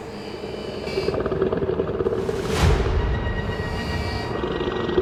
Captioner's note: creature growling